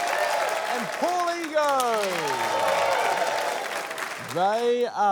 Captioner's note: cheering, applause